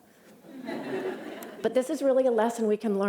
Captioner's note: laughter